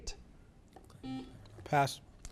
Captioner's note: buzzer beeps